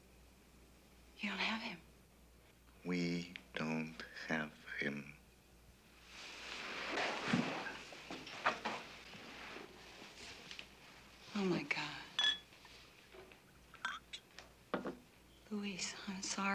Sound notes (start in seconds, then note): 12.1 glasses clinking